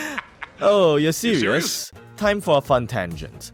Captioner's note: laugh